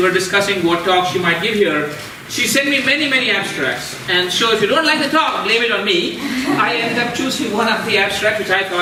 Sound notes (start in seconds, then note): 6.0 audience laughing